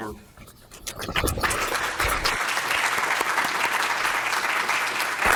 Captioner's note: audience applauding